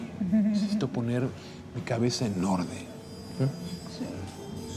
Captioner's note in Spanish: Risas